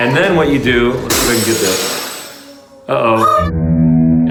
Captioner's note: glass breaking